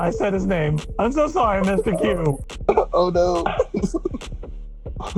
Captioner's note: laughter